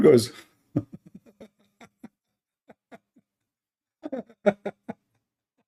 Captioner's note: Ketawa